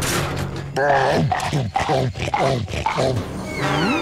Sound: chomping

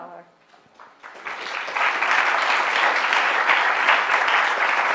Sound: applause

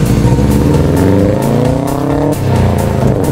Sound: More Subaru Rumble

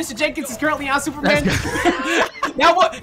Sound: both Laughing

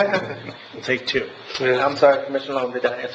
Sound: laughing

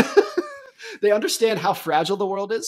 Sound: laughs

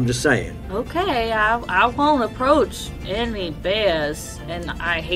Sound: sarcastically

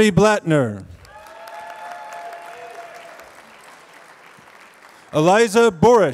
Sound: applause

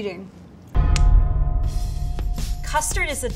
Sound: bell chiming

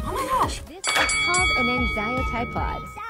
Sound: bell rings

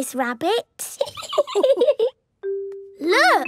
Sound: laughing

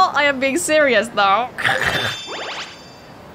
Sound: snickers

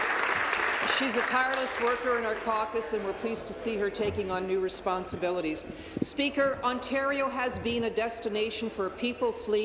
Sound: applause

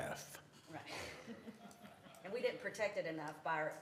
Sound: laughter

